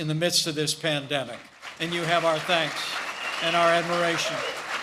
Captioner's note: applause